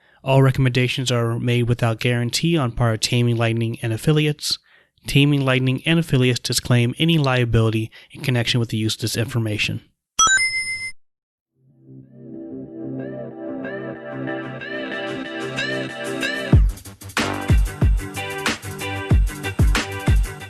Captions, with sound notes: All recommendations are made without guarantee on part of Taming Lightning and affiliates. Taming Lightning and affiliates disclaim any liability in connection with the use of this information. [Sonic the Hedgehog ring sound effect] [intro music starts]